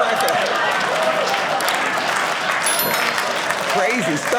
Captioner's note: audience cheering